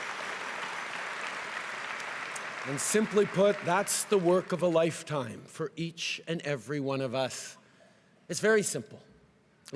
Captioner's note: cheering and applause